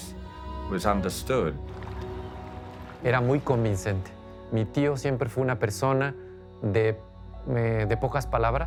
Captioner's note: in Spanish